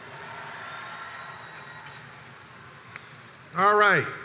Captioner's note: crowd cheers